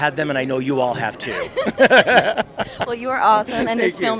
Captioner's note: laughing